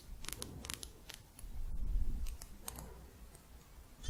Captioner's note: quick tapping